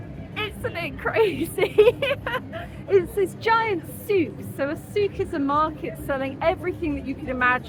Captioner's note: laughing